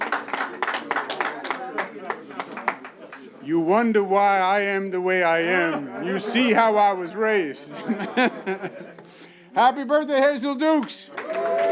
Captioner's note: applause